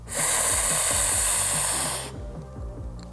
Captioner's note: inhales